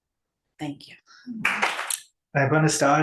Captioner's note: audience applauds